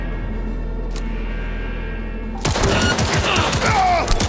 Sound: dramatic music; gun firing

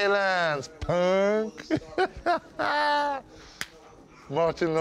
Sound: laughing

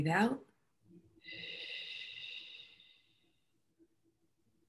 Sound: exhaling

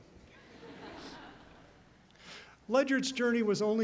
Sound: laughter

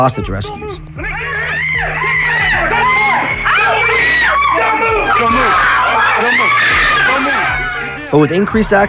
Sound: shouting; screaming

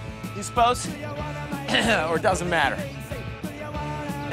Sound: clears throat

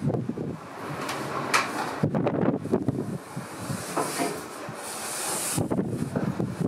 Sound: sound of windstream as door is opened and Constant popping of mic; intense sound of wind as it hits t-shirt

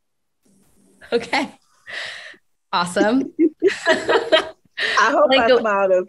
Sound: chuckles softly

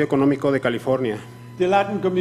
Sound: speaking foreign language

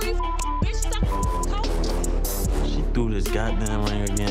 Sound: beep

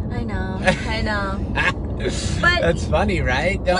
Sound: laughing

